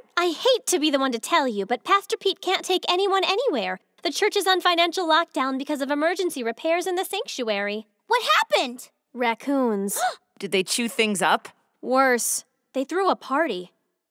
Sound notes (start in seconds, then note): 9.8 gasps